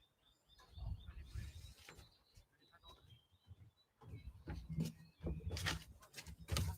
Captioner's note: birds chirping